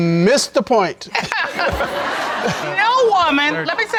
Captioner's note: all laughing